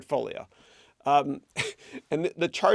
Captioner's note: chuckles